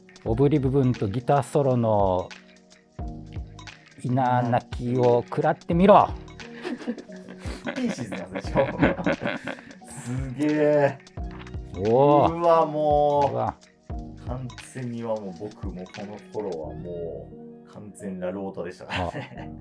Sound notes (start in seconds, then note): 6.6 laughing